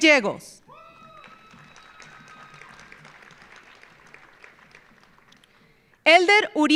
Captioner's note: audience cheering; audience applauding